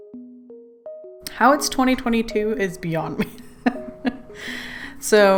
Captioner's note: laughs